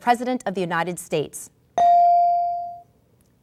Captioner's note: ding